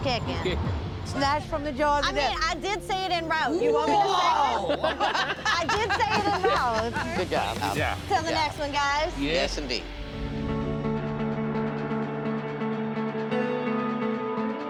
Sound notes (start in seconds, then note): 5.5 laughs; 10.3 dramatic music